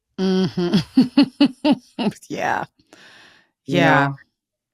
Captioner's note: laughs